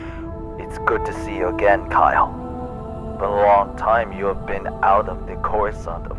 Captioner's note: laughs